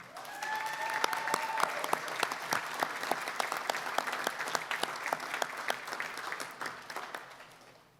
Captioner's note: applause